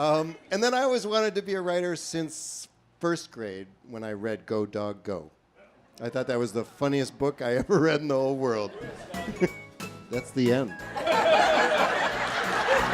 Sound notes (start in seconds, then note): 8.6 laughter